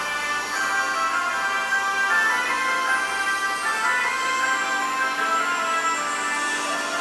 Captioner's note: circular saw buzzing; christmas music continues